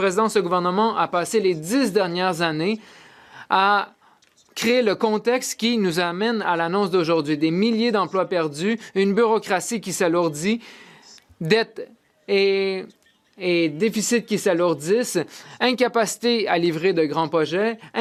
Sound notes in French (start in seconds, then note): 4.4 voix de l'interprète